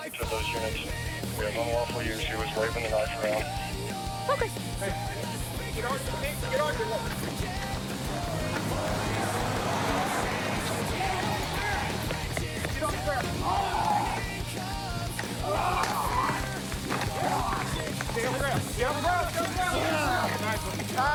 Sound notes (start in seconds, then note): 6.6 footsteps running; 8.1 engine revving; 11.8 footsteps running; 16.1 taser sounds; 17.1 growling sounds